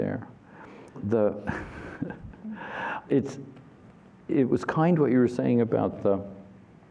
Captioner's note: laughter